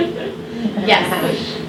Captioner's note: loud laughter